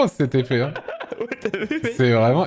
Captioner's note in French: en riant